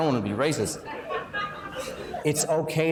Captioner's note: laughing